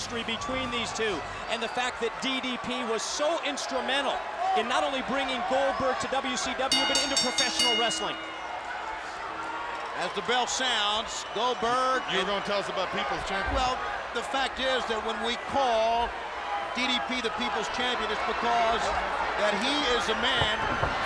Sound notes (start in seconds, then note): 8.7 bell ringing; 8.7 crowd cheering